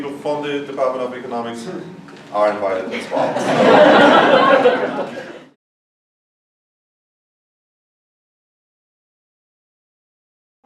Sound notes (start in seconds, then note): 2.9 audience laughs